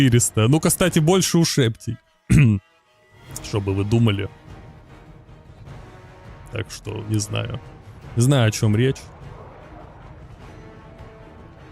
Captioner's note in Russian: откашливается